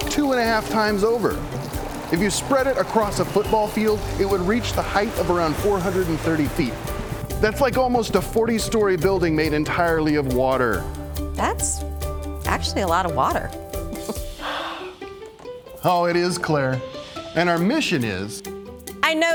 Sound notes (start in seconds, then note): 13.9 chuckling; 14.3 exhaling